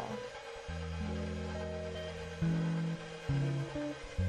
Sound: mixer running

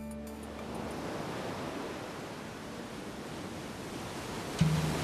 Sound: waves crashing

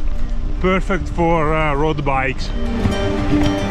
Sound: mhhhh

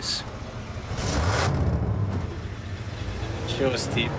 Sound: engine revs

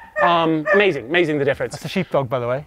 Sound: barking

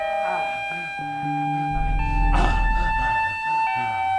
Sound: scratching

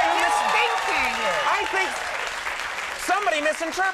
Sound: audience applauding

